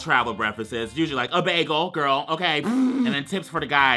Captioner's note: blows raspberry